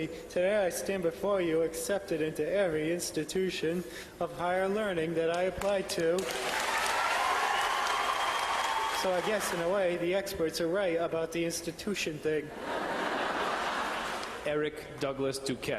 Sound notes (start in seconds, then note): 6.2 loud cheers and applause; 12.5 laughter